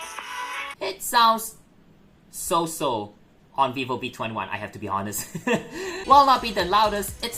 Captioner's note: laughs